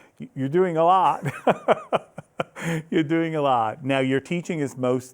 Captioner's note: laughing